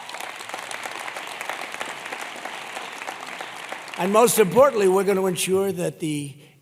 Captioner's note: applause